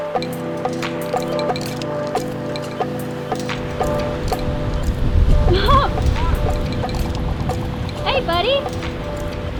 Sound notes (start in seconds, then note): 5.4 laughs